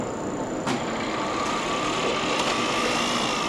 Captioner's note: whirring sound